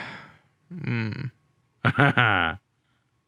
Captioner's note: sighing; laughing